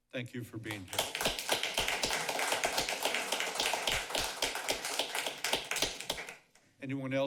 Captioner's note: applause